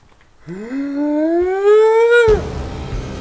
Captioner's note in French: halètement choqué; musique de suspense